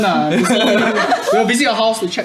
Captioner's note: laughs